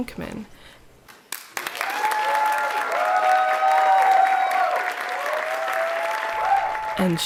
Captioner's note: applause